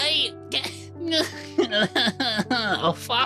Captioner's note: crying